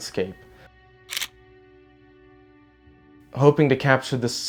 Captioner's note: camera clicking